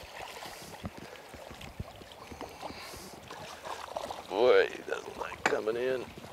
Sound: splash; splash

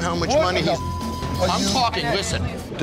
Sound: beep

